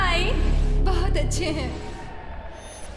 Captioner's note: cheering